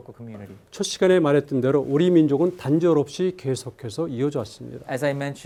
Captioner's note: speaking in Korean